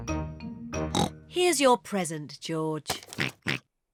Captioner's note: oinks; rattles